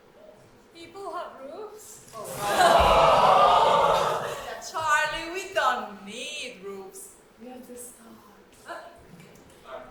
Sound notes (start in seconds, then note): 2.2 audience awww